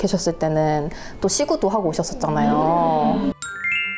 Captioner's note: haha